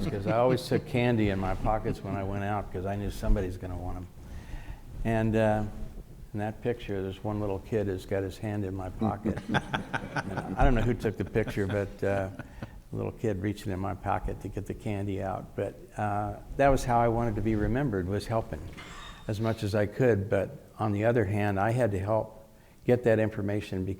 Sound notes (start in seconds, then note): 9.0 laughing